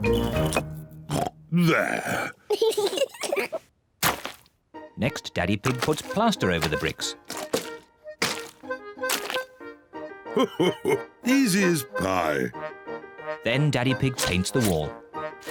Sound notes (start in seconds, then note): 1.1 oinks; 2.5 both laugh